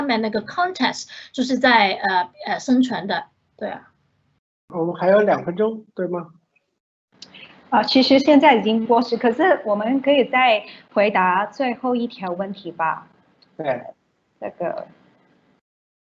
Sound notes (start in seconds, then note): 5.0 Mandarin; 7.9 Mandarin; 13.6 hums in response